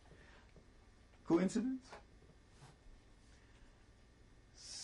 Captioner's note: pauses for 3 seconds